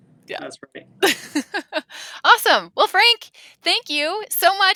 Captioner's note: laughing